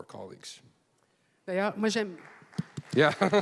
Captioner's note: speaking French; applause